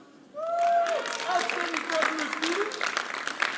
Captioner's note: applause